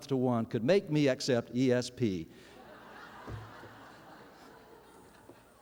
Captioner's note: laughter